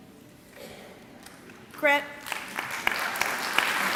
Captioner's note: clapping